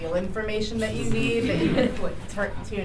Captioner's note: laughter